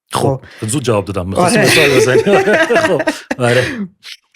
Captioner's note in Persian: خنده